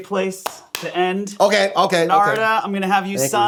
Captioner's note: clapping